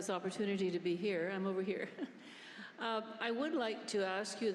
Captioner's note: chuckles